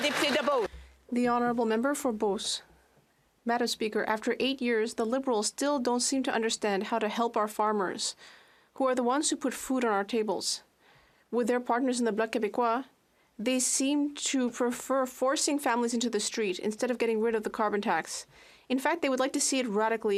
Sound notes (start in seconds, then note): 4.1 speaking French